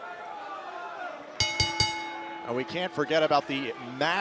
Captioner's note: bell ringing